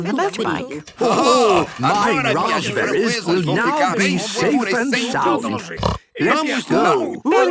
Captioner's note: snort